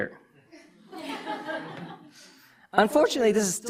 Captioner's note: audience laughter